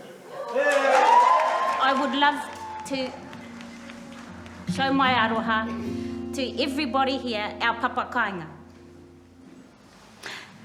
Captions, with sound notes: (crowd cheering and applauding) I would love to show my aroha to everybody here. Our village.